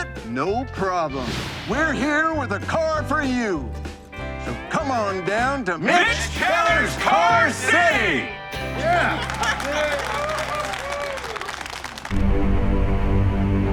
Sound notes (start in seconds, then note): 1.2 air whooshing; 10.7 group clapping